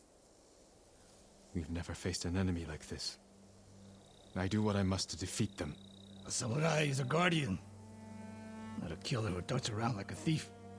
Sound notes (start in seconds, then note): none